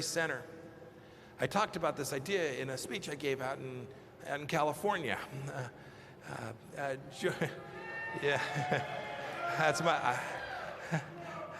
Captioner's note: applause